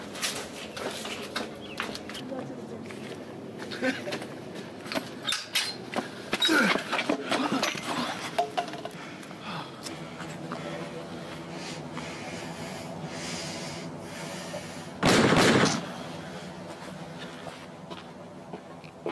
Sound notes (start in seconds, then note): 6.4 Izzo grunting; 10.8 ominous music; 15.0 gun bangs